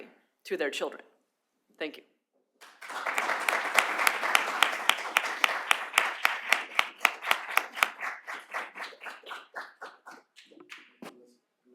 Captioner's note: applause